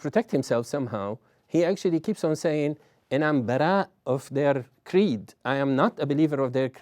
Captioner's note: non-english